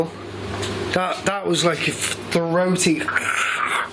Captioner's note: growls